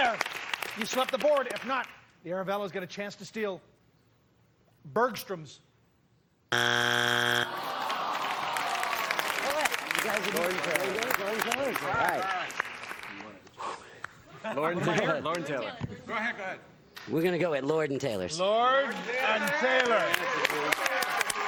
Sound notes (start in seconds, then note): 6.5 buzzer sounds; 8.9 crowd groans